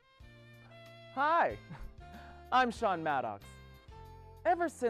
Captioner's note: soothing jazzy music; chuckling